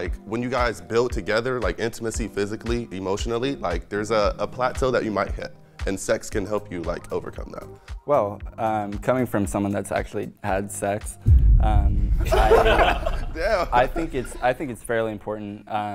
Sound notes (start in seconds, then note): 12.2 everyone laughs